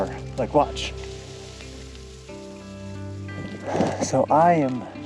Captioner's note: snow swishing